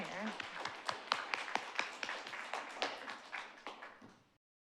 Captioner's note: audience applauds